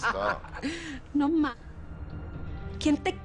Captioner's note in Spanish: Risas